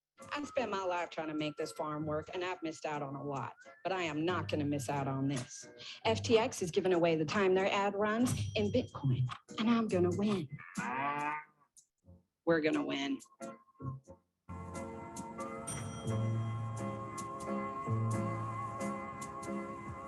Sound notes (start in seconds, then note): 10.6 cow moos; 14.5 gentle music